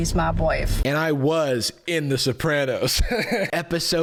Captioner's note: laughs